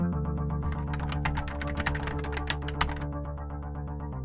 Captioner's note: keyboard clacks